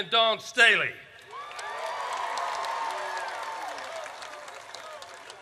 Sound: audience cheers

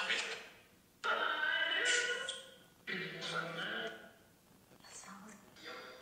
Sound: none

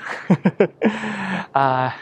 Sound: chuckles

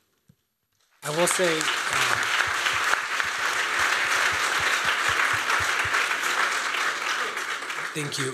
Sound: applause

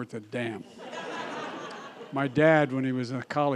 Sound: laughter

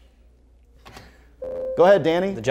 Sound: buzzer

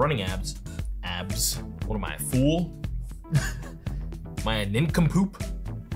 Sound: laughs

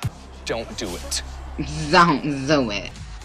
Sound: voice over saying "zdont zdo it"

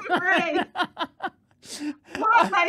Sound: laughing

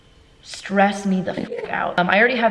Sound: Enderman gurgle

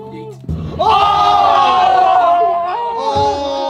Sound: yelling

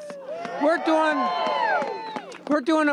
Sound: applause

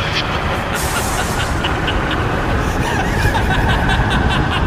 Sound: maniacal laughter

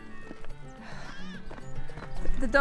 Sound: sigh of relief

